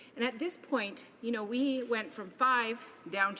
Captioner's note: none